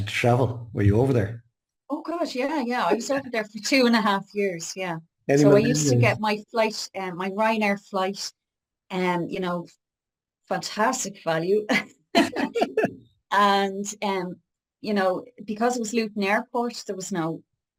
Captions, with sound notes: Had you to travel? Were you over there? - Oh God, yeah, yeah, I was over there for two and a half years. Yeah. So I used to get my flight, my Ryanair flight, you know, fantastic value. (laughs) And, you know, because it was Luton airport, there was no,